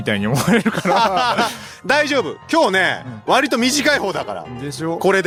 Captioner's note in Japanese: 笑い